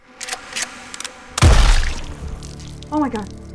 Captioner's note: gun firing